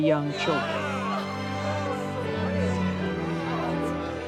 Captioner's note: crowd cheering